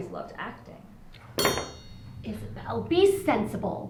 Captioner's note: silverware clanking